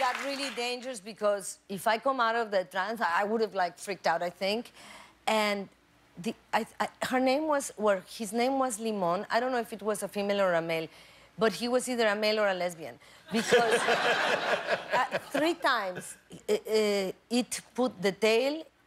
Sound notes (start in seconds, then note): 0.0 applause